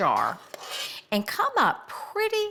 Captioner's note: spoon scraping